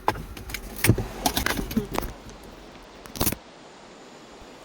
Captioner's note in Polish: dźwięk odpinania pasów